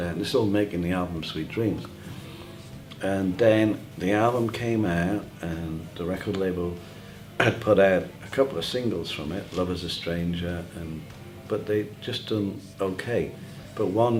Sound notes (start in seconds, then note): 7.4 cough